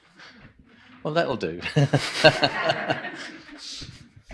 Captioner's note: nevetés